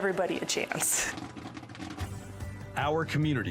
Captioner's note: popping